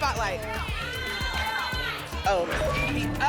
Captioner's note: audience shouting letters